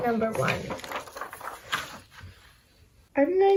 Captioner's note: paper rustling